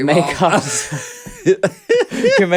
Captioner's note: Alaska laughs